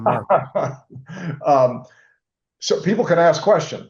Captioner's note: laughing